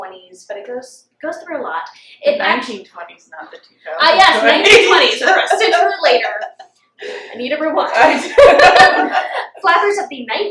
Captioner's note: laughter